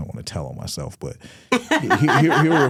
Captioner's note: hosts laughing